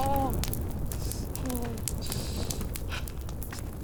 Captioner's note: Amir groaning